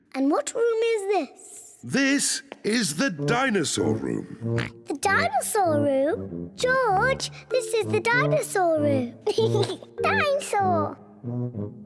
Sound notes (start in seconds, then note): 4.3 oinks; 9.2 laughs